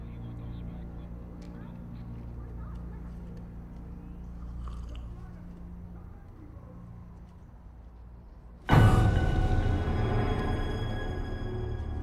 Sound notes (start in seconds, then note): 4.5 Karasic sipping; 8.7 loud menacing music